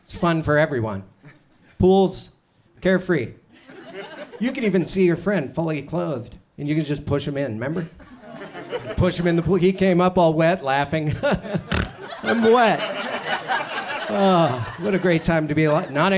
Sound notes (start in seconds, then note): 11.1 chuckles; 13.7 audience chuckles